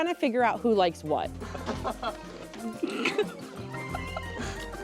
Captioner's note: light laughter